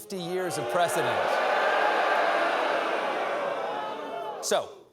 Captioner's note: audience erupts in booing